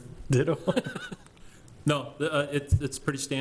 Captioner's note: laughing